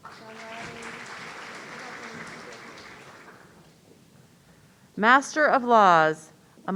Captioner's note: audience applauding